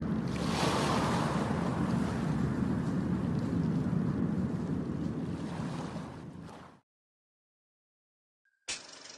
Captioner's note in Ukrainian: звуки хвиль